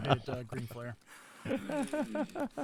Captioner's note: laughing